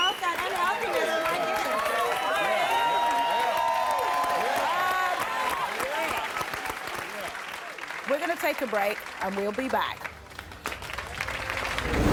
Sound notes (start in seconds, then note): 1.6 crowd cheers; 9.3 dramatic music